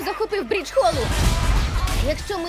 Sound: witch laughs

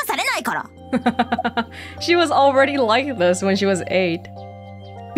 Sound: chuckles

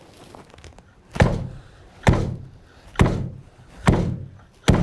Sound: machine thuds

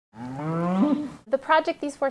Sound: cows mooing

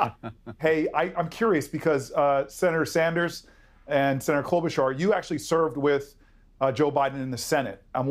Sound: laughter

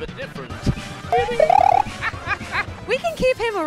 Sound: Super Mario jump noises

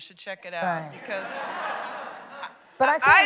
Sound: laughter

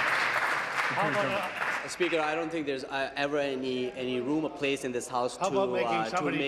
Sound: applause

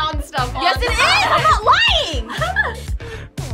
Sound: laughs

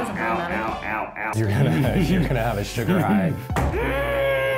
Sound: Ned giggling

